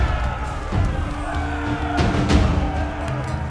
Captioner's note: soldiers yelling